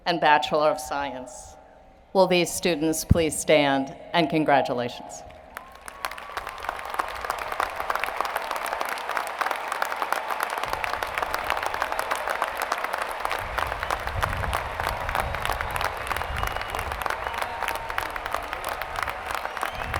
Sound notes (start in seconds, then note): 11.1 applause